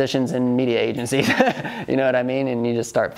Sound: laughs

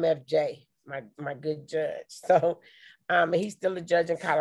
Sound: chuckles

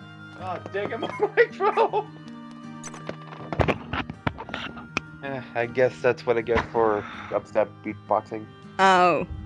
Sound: laughs

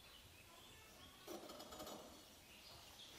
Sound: quiet scratching

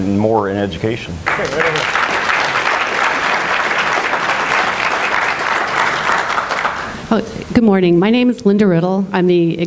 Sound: applause

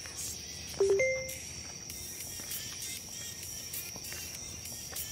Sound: phone notification tone

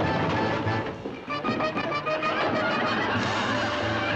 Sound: laughter

